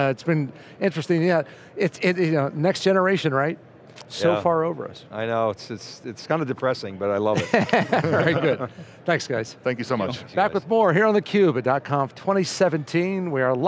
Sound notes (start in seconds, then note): 7.4 laughing